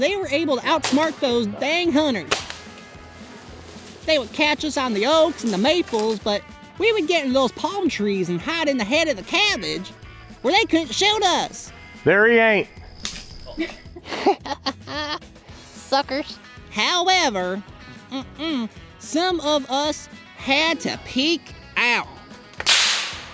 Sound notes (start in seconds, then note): 2.2 airguns firing; 14.0 laughing; 22.5 airgun firing; 23.1 upbeat country music